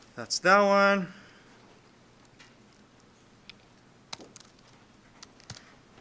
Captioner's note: clicking Sounds